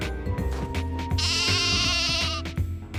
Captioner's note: bleats